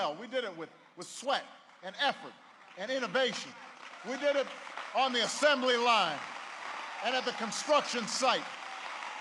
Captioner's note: applause